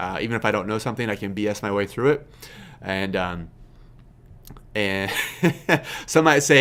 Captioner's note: laughs